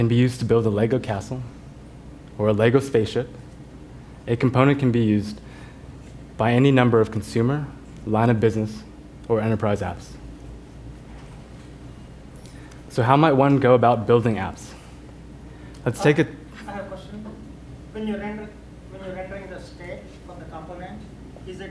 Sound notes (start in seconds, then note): 15.9 voiceover